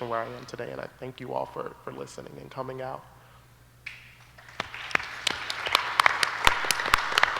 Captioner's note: applause